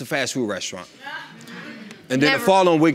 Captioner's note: woman scoffs